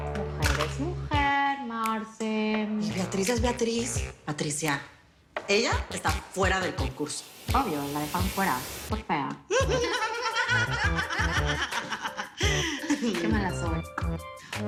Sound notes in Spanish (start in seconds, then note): 9.5 Risas